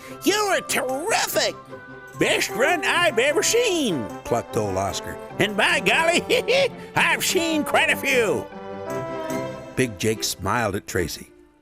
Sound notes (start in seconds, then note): 5.5 laughing